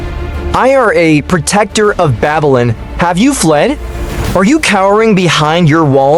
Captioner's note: shouting